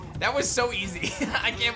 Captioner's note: laughs